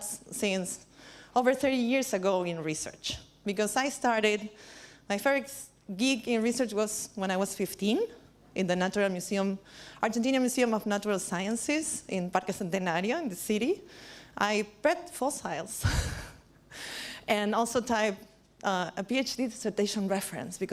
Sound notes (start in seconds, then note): 16.1 laughs